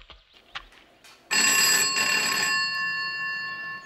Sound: phone rings

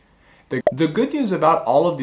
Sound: bubble popping

